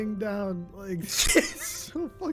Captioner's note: laughs